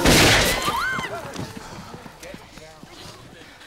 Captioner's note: gun firing; screaming